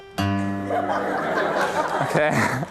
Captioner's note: laughter